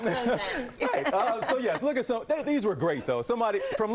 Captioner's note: laughter